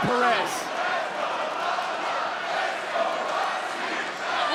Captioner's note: audience chanting